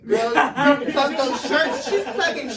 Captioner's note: everyone laughs